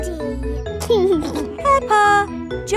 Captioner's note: giggling